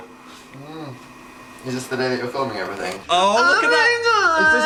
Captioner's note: groans